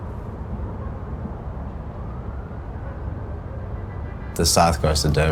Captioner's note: dog barking in the distance; city hum